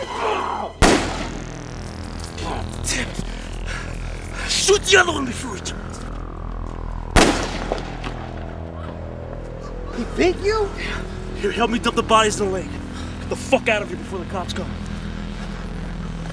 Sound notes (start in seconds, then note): 0.8 gun fires; 7.1 gun fires